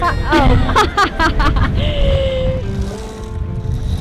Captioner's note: both laughing